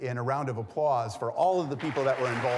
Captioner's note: audience applauding